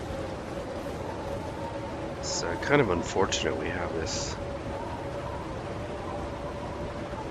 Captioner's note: blizzard